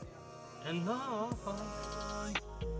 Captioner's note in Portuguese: cantarolando